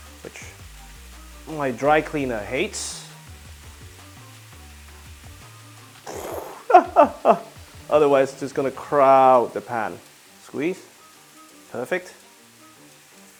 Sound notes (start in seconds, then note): 6.0 laughing